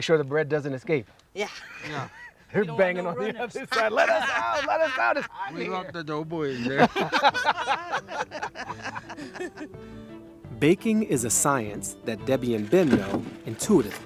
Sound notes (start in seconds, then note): 3.1 laughing; 8.9 all laughing